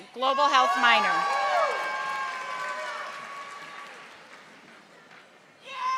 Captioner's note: audience applauding